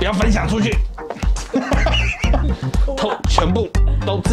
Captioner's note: laughter